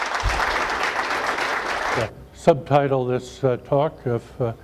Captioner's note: audience applause